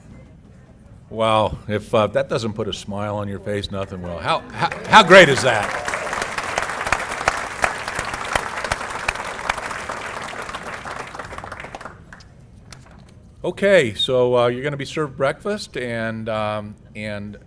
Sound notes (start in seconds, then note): 10.4 applause